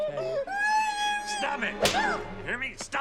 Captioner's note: dramatic crying